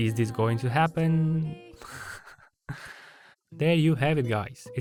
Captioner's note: Fuutarou’s laugh